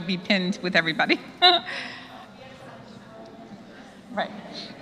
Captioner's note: laugh